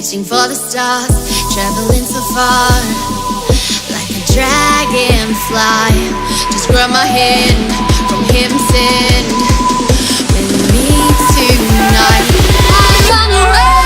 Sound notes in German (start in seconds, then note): none